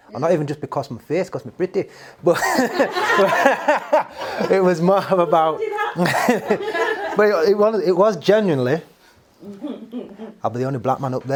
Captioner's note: everyone laughs